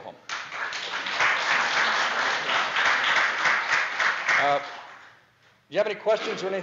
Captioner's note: audience applause